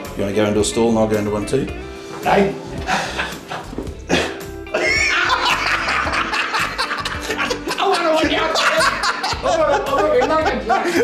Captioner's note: laughing